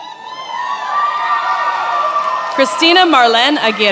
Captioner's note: attendees applauding and cheering